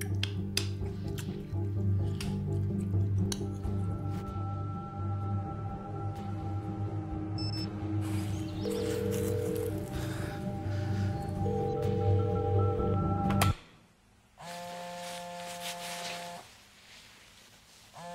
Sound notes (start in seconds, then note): 0.9 intriguing music; 7.3 beeps; 8.7 dial tone; 15.1 phone vibrating